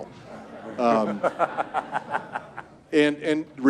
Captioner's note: audience laughs